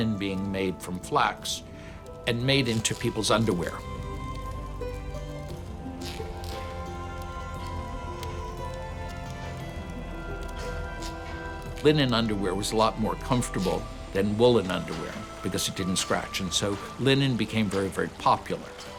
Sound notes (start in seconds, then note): 5.3 fabric ripping